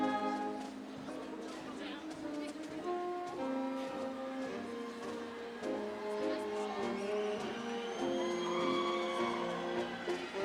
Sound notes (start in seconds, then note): 4.3 audience cheering; 5.2 upbeat ceremonial music